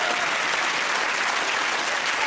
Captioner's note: applause